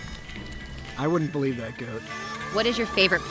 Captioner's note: licking noises